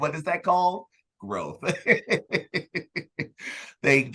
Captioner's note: laughs